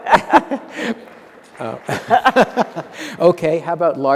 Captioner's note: applause